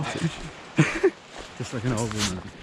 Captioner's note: both laughing